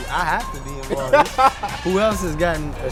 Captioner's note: laughing